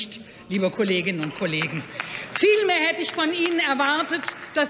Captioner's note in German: Beifall bei Abgeordneten der SPD